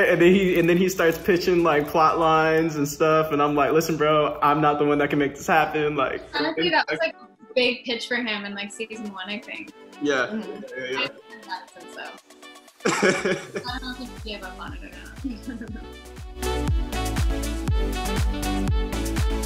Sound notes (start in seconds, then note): 12.8 Quincy laughing; 16.7 upbeat music